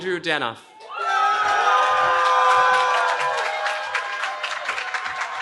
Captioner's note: cheering